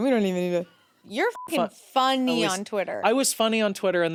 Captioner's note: beep